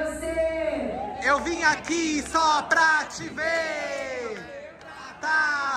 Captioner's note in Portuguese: todos gritam